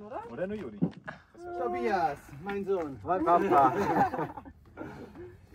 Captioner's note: laughter